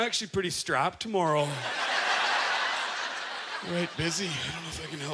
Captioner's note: audience laughter